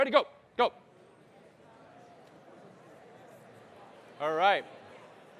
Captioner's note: audience murmuring